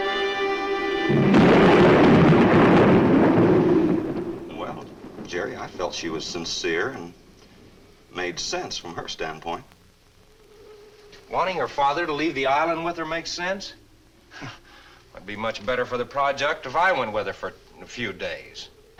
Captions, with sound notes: (thunder claps) - Well, Jerry, I felt she was sincere and made sense, from her standpoint. - Wanting her father to leave the island with her makes sense? (scoffs) It'd be much better for the project if I went with her for a few days.